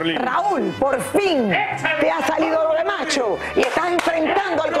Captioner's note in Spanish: aplausos